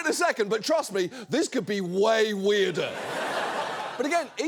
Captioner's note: audience laughs